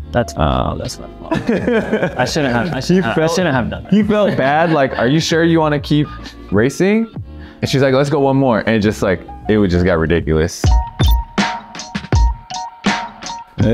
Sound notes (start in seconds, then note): 1.2 Jeremy laughing; 1.2 laughs; 10.6 lofi music